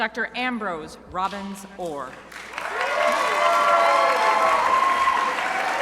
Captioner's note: crowd applauding